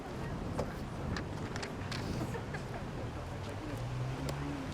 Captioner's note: background talking